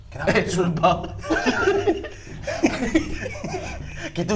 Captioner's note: giggling